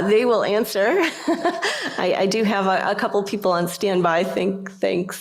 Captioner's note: laughter